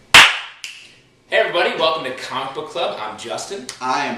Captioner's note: clap